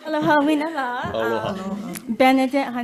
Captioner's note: audience laughs and applauds; speaks foreign language